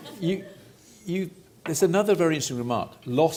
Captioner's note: audience laughter